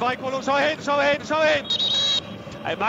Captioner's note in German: Pfiff